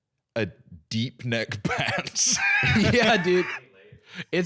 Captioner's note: laughs